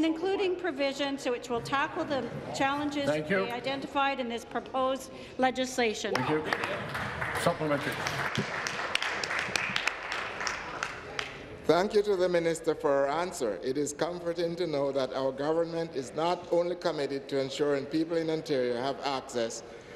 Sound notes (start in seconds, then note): 10.4 applause